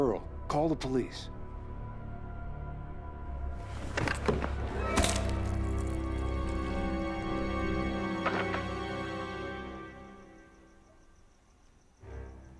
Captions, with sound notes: Call the police. (fleshy sucking) (dramatic music)